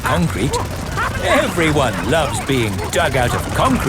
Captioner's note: all laughing